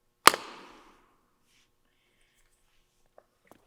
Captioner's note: lid clicks